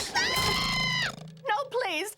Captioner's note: screaming